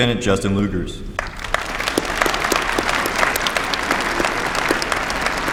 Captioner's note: applause